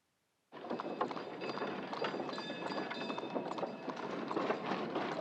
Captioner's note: trolley bells ringing, horses trotting